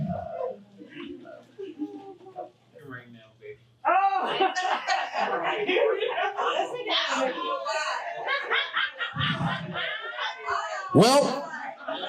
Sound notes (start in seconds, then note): 5.5 audience cackling